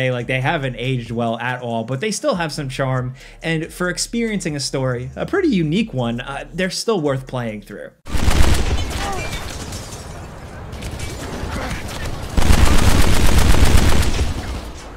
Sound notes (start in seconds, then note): 8.0 gun fire